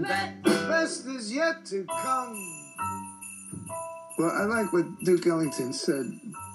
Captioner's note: bells jingling